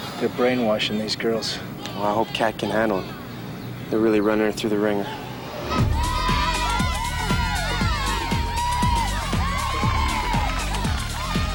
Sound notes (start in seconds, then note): 5.5 women cheering; 8.8 upbeat music